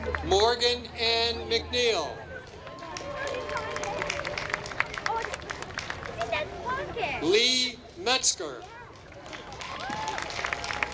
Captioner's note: applause